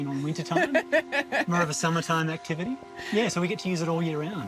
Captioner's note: laughs